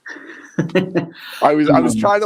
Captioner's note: chuckles